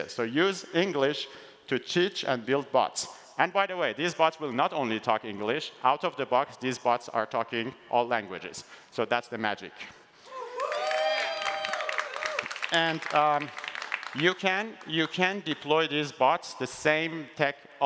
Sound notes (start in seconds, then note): 10.6 applause